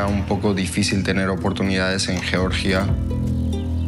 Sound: speaking in Spanish

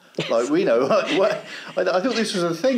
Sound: both laugh

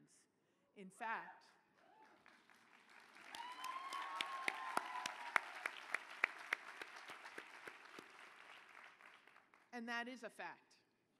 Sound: applause

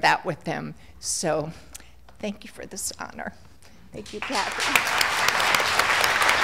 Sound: applause

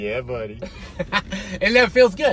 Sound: laughs

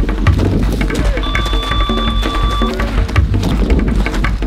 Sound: squeal

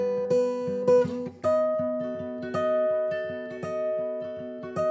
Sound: none

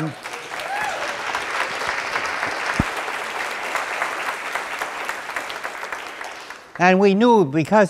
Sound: cheering; applause

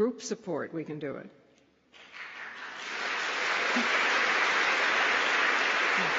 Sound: applause

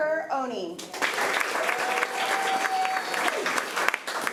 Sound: applause

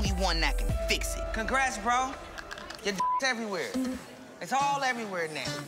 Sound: beep

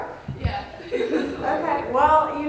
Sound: laughter

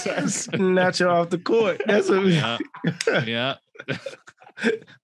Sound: all laughing

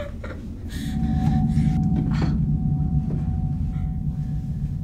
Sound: Heather whimpers

